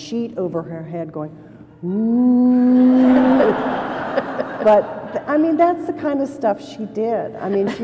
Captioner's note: laughter